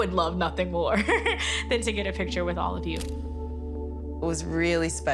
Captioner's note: laughs